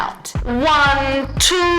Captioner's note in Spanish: Acento rumano